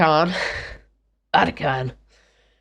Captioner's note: raspy voice